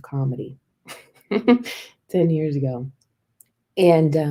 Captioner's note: laughter